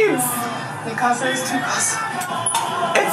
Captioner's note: speaks foreign language